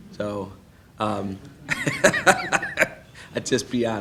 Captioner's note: laughing